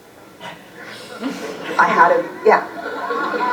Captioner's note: laughs